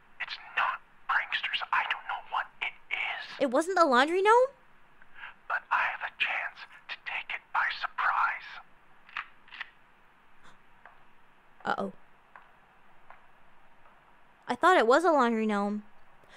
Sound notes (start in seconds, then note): 8.9 cocks gun